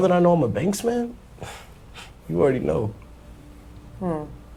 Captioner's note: scoffing